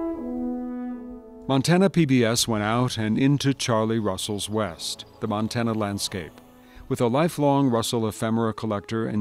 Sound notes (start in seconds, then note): 0.0 slow music; 1.6 voiceover